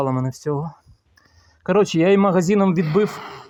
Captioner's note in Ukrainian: Шипіння